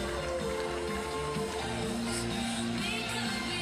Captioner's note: audience applauding and cheering continues